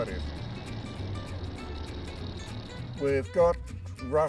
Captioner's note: locomotive rattling